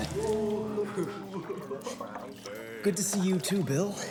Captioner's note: boys laugh and jeer